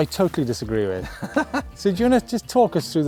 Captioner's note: laughs